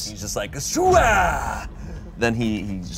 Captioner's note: grunts